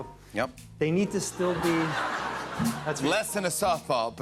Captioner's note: laughter